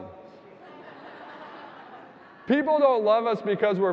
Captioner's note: audience laughing